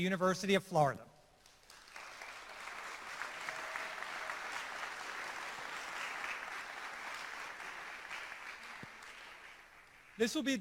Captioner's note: applause